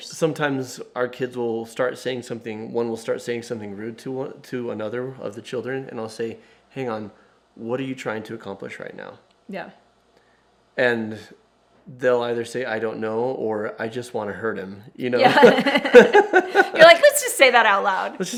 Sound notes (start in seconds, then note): 15.2 both laughing